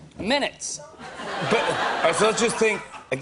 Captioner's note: laughter